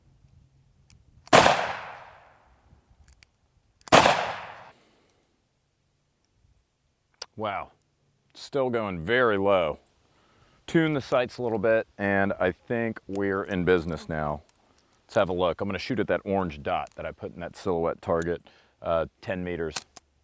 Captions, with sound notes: (gun shooting) (gun shooting) Wow, still going very low. Tuned the sights a little bit and I think we're in business now. Let's have a look. I'm gonna shoot at that orange dot that I put in that silhouette target. 10 meters.